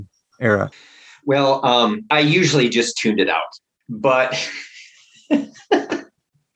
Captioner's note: laughter